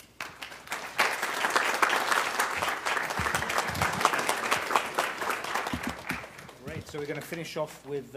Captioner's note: applause